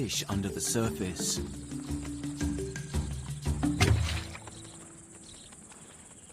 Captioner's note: birds chirping; insects buzzing